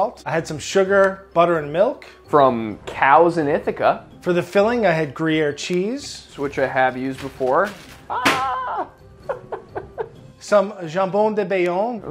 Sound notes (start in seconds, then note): 8.1 laughs; 8.2 cheese thumping on ground